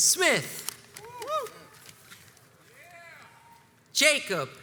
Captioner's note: crowds cheers and applauds